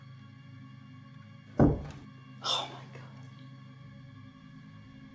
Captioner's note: something knocks once